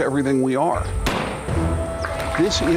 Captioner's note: gun popping; folks clapping